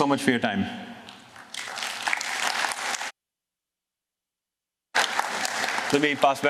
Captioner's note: applause